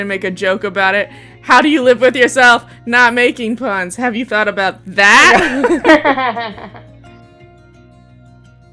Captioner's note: laughter